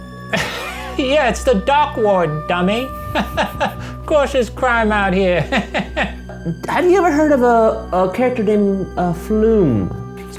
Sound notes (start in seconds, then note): 5.3 laughs